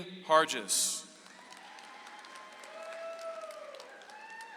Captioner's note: audience applauds